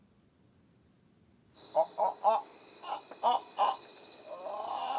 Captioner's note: making animal call